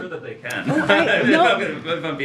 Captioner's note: laughs